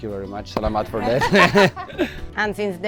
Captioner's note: laughs